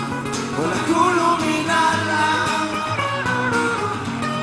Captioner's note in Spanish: árabe